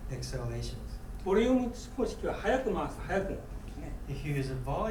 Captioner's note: speaking in foreign language